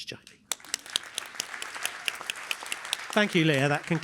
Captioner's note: applause